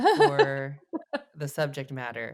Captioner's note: laughs